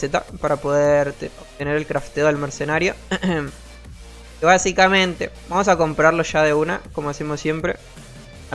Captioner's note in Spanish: carraspeo